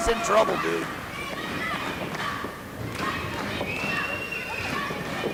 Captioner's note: crowd chants